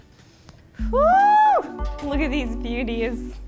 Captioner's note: exclaims